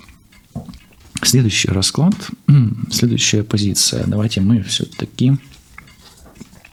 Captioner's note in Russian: откашливается